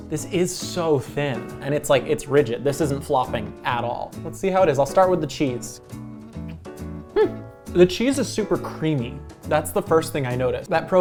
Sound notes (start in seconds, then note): 6.1 eating